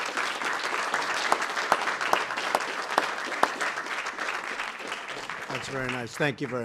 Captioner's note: applause